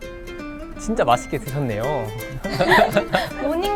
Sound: hahaha

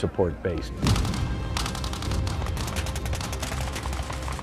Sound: guns firing

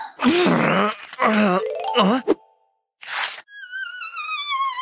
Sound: moaning

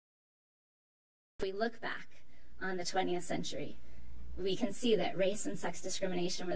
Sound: voice is distorted

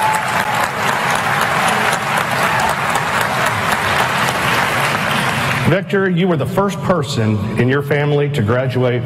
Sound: applause

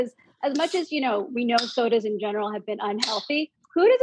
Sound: tab clicks

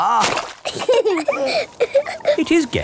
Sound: both laughing

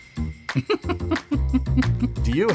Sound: laughing

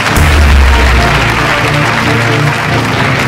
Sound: mouthing

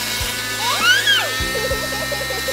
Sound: giggles

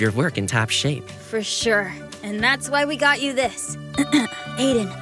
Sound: clears throat

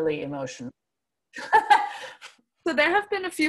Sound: laughs

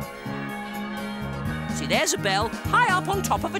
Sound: bells ringing

